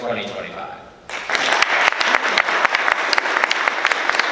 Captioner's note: applause